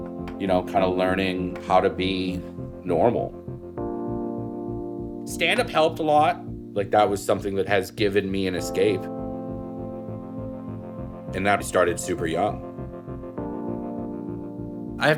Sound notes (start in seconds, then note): none